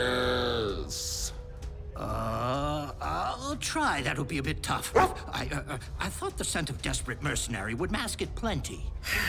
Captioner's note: confused